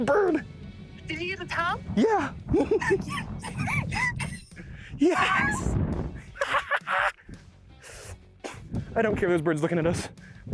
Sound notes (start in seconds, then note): 2.4 both laughing